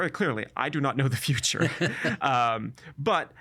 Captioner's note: laughing